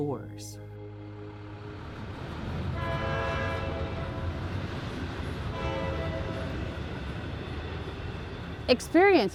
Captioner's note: train horn